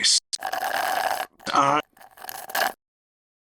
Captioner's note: slurps